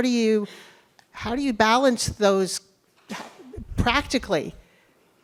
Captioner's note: coughs